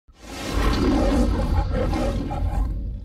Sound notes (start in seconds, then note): 0.3 Leo the Lion roaring amid dramatic sounds